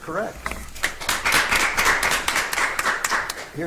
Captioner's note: audience applauds